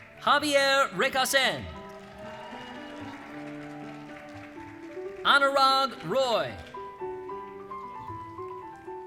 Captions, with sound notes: Javier Recasens. (cheering) Anurag Roy.